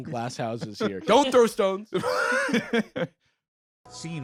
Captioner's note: laughs